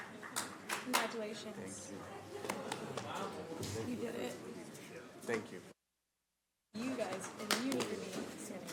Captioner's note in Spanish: aplausos